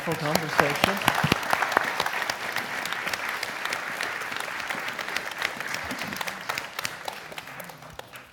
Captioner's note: applause